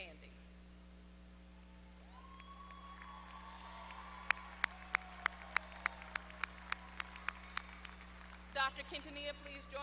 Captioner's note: applause